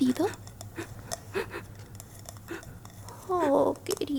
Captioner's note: soft sobs